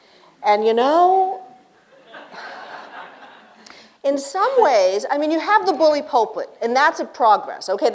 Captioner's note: laughter